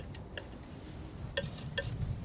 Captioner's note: tapping